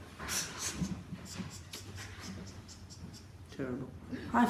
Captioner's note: weird chuckle and head shaking